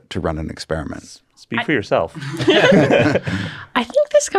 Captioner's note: everybody laughs